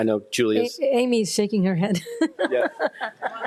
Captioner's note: laughs